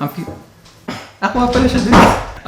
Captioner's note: door shuts loudly